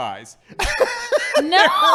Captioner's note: laughing